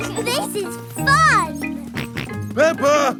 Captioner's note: both laughing; george snorts